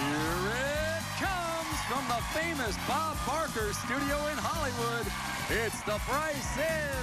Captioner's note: cheers and applause